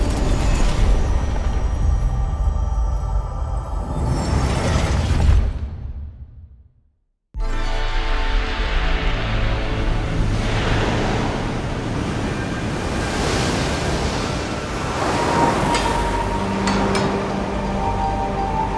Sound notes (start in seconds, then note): 7.4 bright, curious music; 12.1 waves crashing